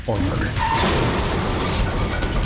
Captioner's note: crash